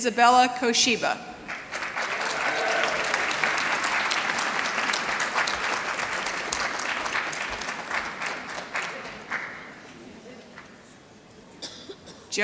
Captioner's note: applause